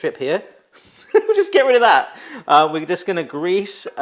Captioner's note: chuckles